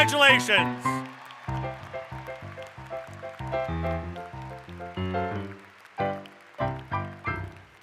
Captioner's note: applause